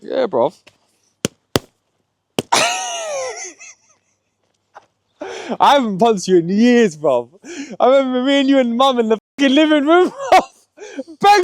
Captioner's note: laughter